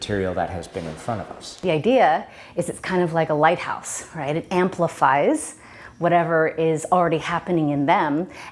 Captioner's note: none